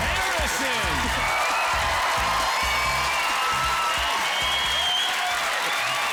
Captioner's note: applause